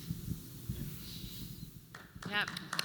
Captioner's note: applause